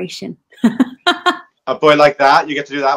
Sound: laughing

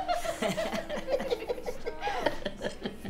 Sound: mocking laughter

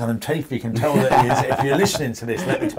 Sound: laughing

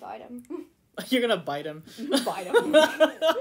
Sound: laughter

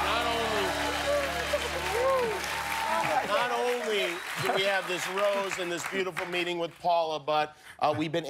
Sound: cheers and applause

